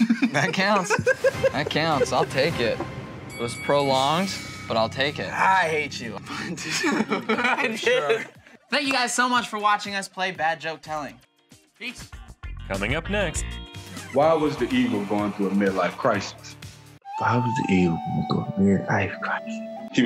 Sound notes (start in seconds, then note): 3.2 bell dings; 12.7 voiceover